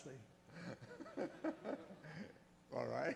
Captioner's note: laughs; voiceover